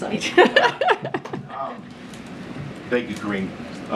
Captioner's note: laughter